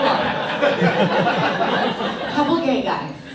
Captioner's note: audience laughs